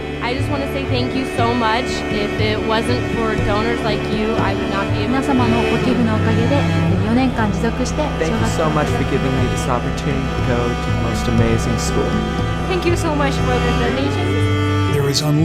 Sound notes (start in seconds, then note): 5.4 foreign language